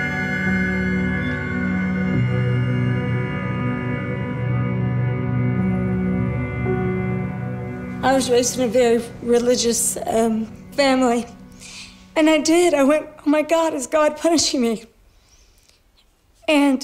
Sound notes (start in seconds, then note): 8.3 broken voice